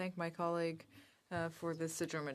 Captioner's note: speaking french